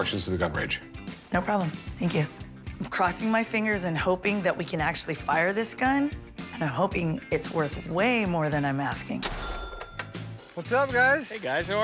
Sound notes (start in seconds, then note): none